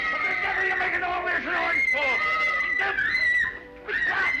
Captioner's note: children screaming